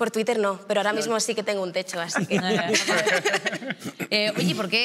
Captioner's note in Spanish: algunos ríen